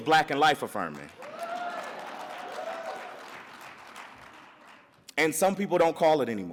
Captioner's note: audience cheers and applauds